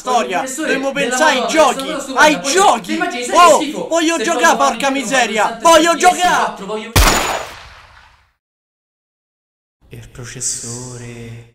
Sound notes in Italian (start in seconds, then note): 6.9 sparo